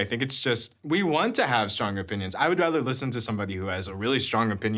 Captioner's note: none